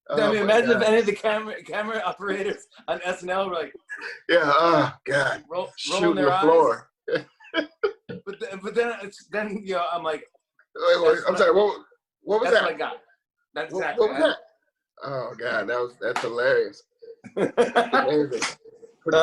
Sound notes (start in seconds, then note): 7.1 both laugh